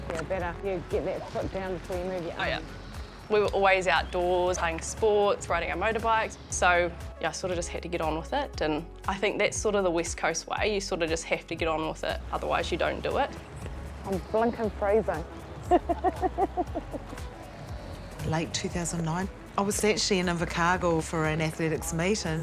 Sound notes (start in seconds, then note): 15.6 laughs